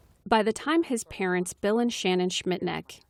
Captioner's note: voice-over